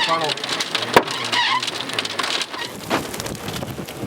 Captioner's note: hail pattering